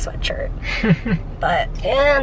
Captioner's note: chuckles